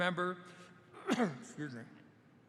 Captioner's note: coughs